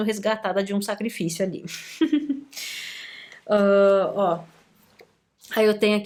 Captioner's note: laughter